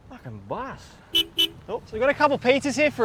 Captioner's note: horn honks